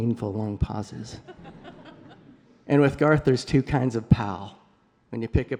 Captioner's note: laughter